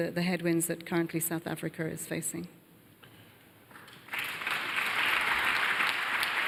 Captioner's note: applause